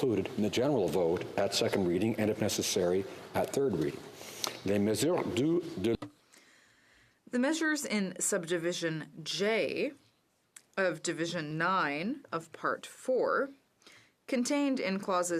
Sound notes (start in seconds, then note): 7.7 speaking French